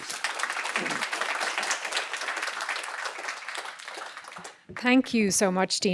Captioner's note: applause